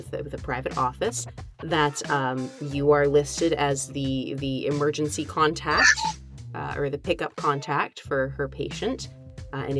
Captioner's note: omnitool sounds